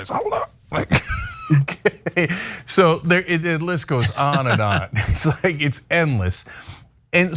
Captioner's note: laugh